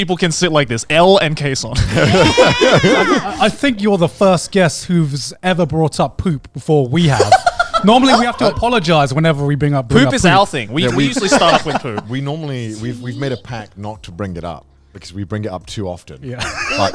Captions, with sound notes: - Only two people can sit like this, L and Kson. (everyone laughing) - Yeah! - I think you are the first guest whose ever brought up poop before we have. - Normally we have to apologize whenever we bring up poop. - Poop is our thing. We usually start with poop. - We normally, we've made a pact not to bring it up because we bring it up too often. (everyone laughing)